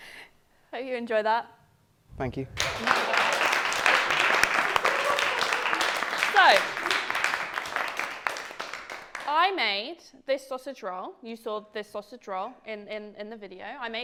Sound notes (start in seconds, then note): 2.5 applause